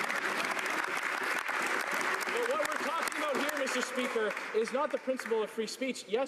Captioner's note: some Applause